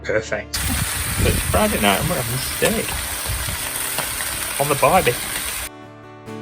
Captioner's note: sizzle